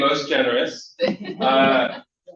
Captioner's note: laughter